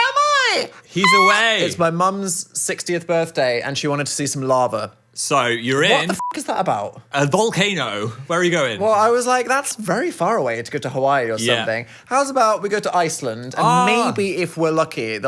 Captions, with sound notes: Ah! - He's away. - It's my mum's 60th birthday and she wanted to see some lava. - So you're in- - What the (beep) is that about? - A volcano, where are you going? - Well, I was like, "That's very far away to go to Hawaii or something." How's about we go to Iceland? - Ah. - And maybe if we're lucky,